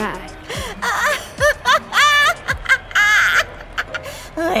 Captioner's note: manic laughter